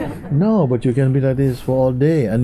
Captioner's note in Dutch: gelach